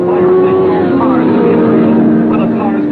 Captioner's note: car revving